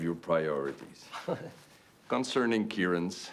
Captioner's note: Rene laughs